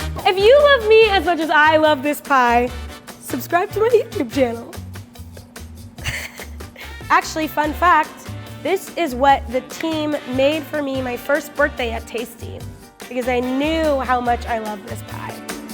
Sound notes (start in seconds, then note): 0.0 upbeat music; 6.0 laughs